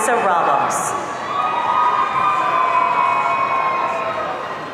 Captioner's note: audience cheering